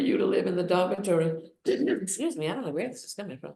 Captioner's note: coughs